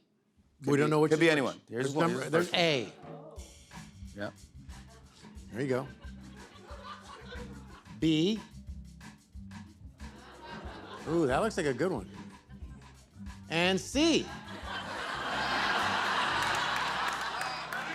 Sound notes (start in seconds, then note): 5.7 scattered laughter; 10.2 audience murmurs; 14.2 laughter